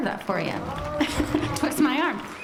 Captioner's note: audience applauding; chuckles